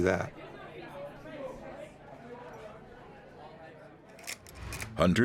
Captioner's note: people chattering